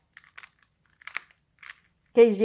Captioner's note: crunchy sound